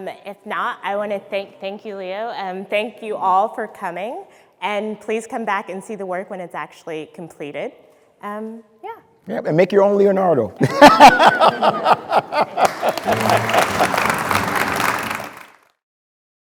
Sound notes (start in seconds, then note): 10.6 speaker laughing; 13.2 audience clapping